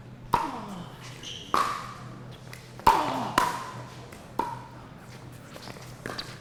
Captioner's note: shoes squeaking; ball being hit